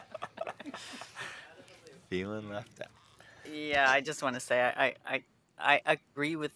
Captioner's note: laughter